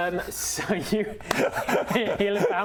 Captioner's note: very pleased laughter